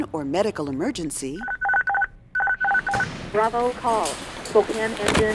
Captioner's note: dispatch tones